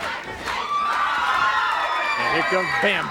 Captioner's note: audience cheering